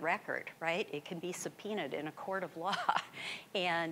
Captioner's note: chuckling